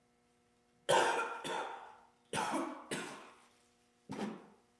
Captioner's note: Jacob coughing